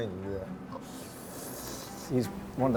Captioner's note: slurping